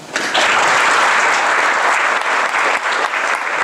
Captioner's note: applause